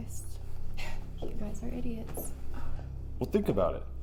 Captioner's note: scoffs